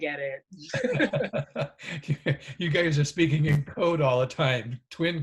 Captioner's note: laughs